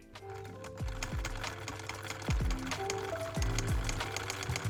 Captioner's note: sewing machine whirring